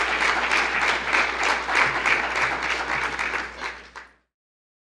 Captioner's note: clapping